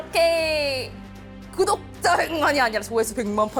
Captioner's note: with a fried voice